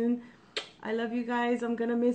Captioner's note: kissing